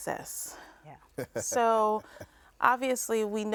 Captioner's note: man chuckling